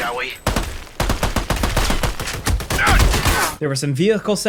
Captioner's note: guns blasting